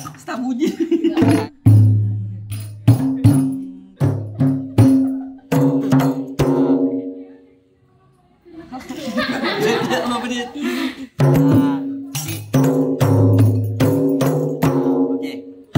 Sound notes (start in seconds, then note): 0.6 laugh; 1.0 beating drum; 1.4 laugh; 11.1 beating drum